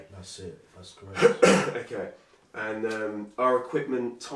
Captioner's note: coughs loudly